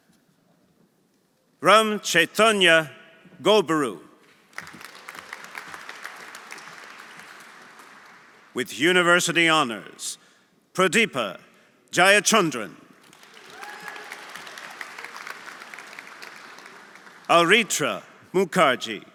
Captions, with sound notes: Ram Chaitanya Gobburu. (audience applauding) (audience cheering) With University Honors, Pradeepa Jayachandran. (audience applauding) (audience cheering) Aritra Mukherjee.